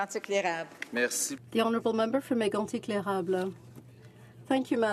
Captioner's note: speaking French